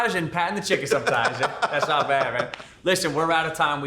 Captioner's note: laughing